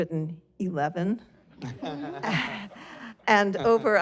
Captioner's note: laughter